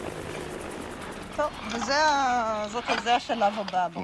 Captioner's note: speaking Hebrew